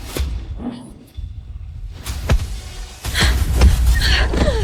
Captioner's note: gasping